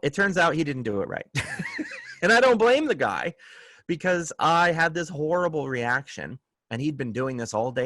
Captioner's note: laughter